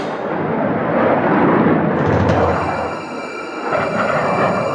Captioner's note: airplanes rumbling